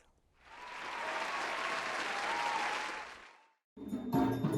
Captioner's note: applause